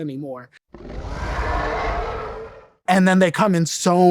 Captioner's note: dinosaur roaring